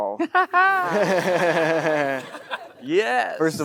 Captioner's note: Matthew laughs; Timothée laughs; audience laughing